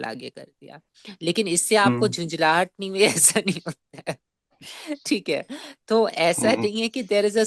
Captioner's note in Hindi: हंसी